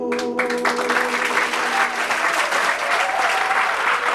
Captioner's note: group clapping